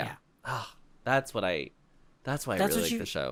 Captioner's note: sigh